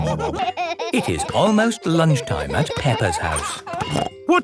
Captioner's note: laughing